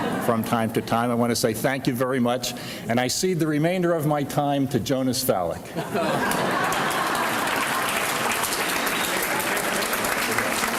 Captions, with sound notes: from time to time, I wanna say thank you very much, and I cede the remainder of my time to Jonas Falik. (audience laughs) (applause)